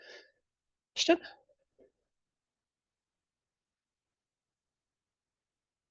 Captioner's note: long pause